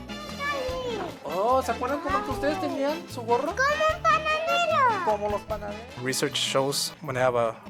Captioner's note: upbeat Latin music; speaking Spanish